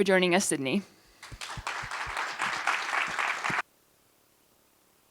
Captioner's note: applause